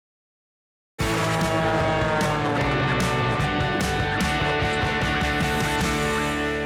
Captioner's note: rousing music; plane engine buzzing